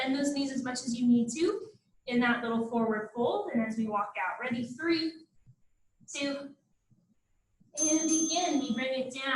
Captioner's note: ding, ding